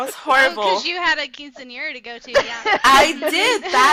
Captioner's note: overlapping laughter